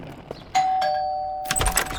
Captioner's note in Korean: 딩동